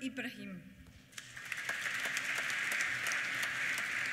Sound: applause

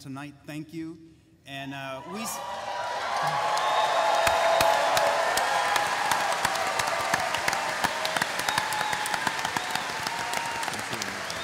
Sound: cheering

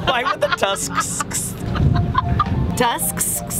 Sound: laugh; laughs

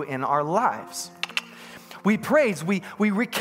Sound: double-clicks his tongue

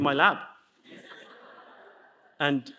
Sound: audience laughs

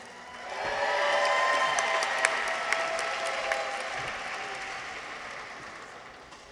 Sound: people cheer; audience applauds

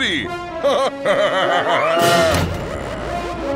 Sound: laughing

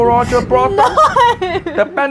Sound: laughs

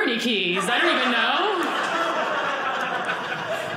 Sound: audience laughing

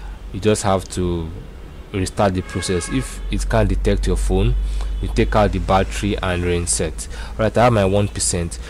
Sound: car horn

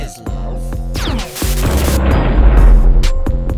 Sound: laser Sound with a small explosion

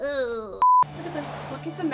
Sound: beep

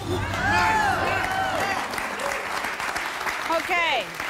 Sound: applause

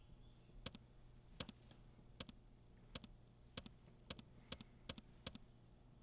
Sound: space bar clicking

